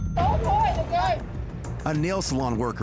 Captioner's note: people shouting